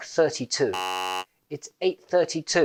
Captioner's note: wrong sound